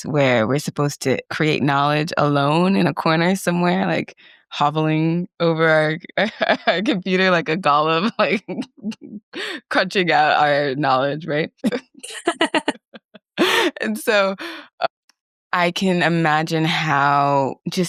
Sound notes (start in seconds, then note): 7.7 laughs; 12.6 both laugh